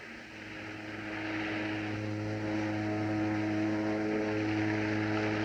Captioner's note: ship Horns Blowing In Distance